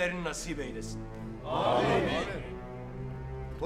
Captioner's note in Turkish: Hep bir ağızdan